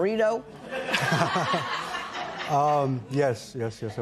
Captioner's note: laughter